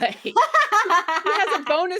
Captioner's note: both laughing